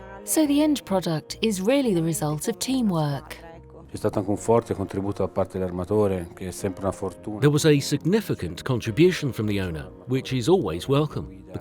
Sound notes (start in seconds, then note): 4.5 speaking in foreign language